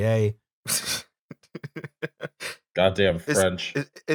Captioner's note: laughing derisively